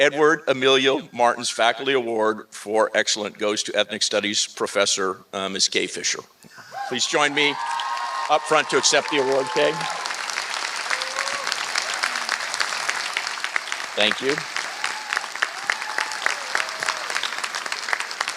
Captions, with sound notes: Edward Emilio Martin's Faculty Award for Excellence goes to Ethnic Studies Professor, Ms. Kay Fisher. Please join me up front to accept the award, Kay. [APPLAUSE] Thank you. [APPLAUSE]